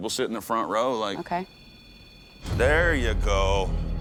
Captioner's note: beeping